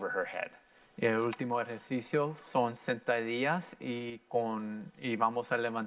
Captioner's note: in foreign language